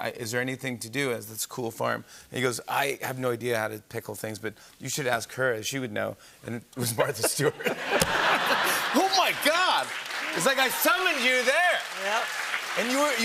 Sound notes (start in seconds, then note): 6.9 laughter; 12.3 applause